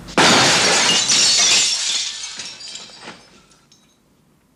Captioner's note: glass shattering